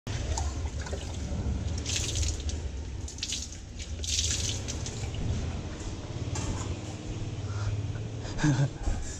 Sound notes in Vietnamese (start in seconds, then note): 0.0 Tiếng xối nước; 8.3 Tiếng cười của tôi